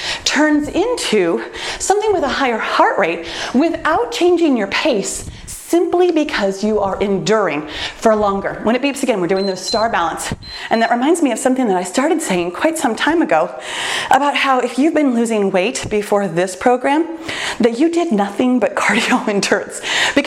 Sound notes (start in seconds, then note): 9.3 timer beeps